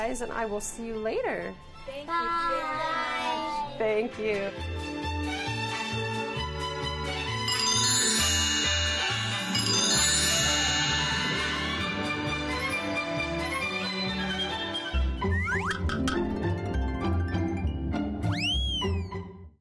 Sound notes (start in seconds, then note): 4.9 playful music; 7.2 chimes tinkling; 15.3 logo whistling and clicking; 15.3 playful music